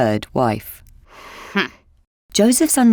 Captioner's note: Leah scoffs